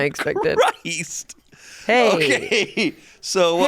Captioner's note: laughs